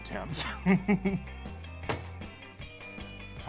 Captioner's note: laughter